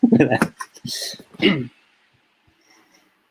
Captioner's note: laughter